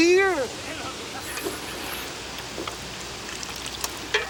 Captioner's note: Bruto slurps